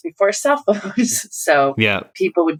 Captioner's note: laughter